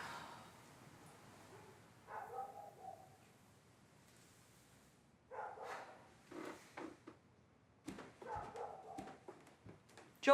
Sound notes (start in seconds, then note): 0.0 sighs; 2.0 dog barking; 5.3 dog barking